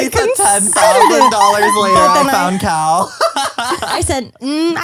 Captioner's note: laughs